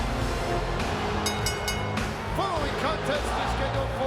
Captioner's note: bell rings